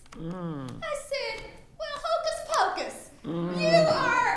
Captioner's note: attendees laughing